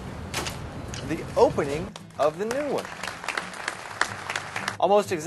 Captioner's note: applause